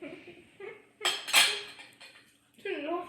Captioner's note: laughs